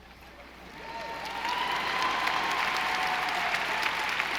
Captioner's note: audience applauding